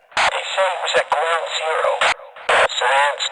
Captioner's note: none